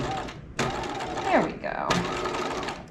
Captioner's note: sewing machine whirling